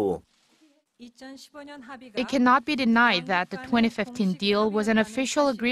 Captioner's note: Korean